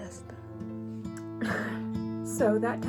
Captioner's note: gentle music; sobbing